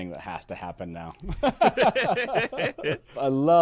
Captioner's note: both laughing